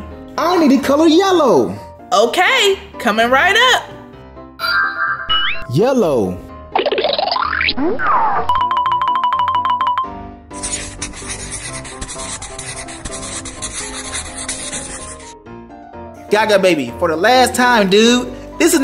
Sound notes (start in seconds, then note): 10.6 scribbling noises